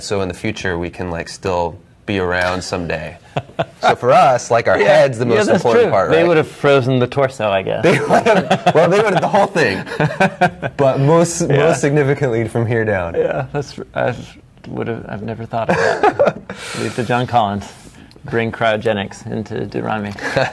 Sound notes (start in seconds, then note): 7.8 laughing